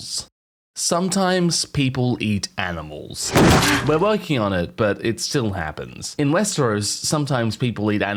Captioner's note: splat